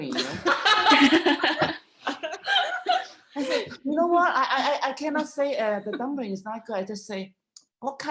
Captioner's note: laughter